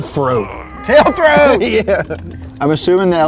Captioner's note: laughing